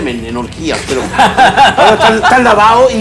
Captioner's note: laughs